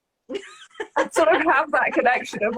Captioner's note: laughs